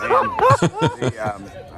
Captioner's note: laughing